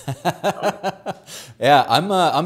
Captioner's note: laughs